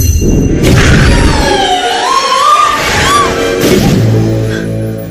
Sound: screaming

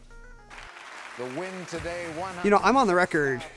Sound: audience applauds

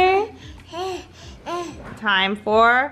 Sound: baby breathing heavily

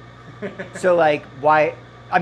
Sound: chuckling

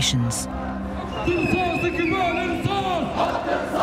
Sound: crowd chanting in Arabic

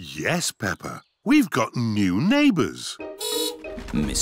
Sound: horn beeps

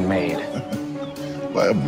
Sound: laughs

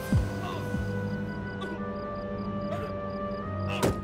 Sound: painful grunting

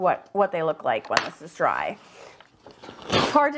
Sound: paper ripping

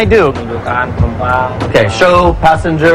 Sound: speaking indonesian

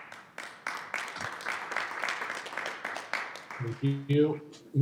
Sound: audience clapping

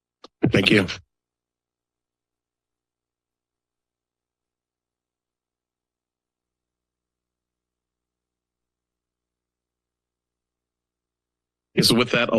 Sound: silence

